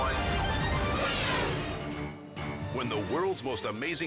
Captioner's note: logo swooshing